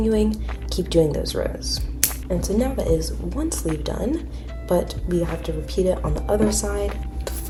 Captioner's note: scissor cuts